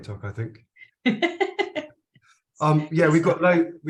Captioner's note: chuckles